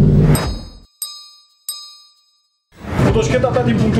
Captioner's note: hydraulics / springs